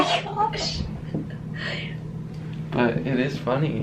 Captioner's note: laughing